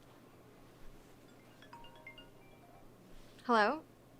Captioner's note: phone ringing